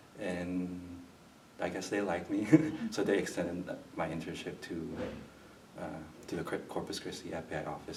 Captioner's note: laughs